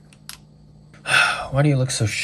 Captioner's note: sigh